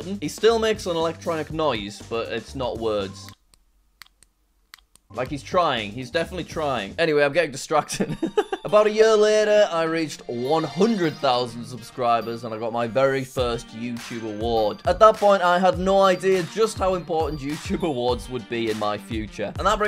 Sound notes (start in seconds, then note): 4.7 button clicking; 7.9 chuckles